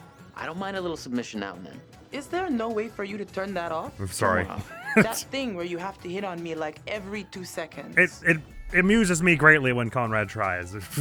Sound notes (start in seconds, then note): 4.6 laughs